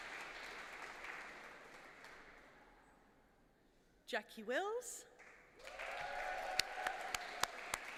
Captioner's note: applause